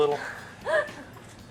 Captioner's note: laughs